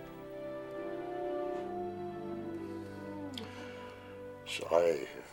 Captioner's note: howling in distance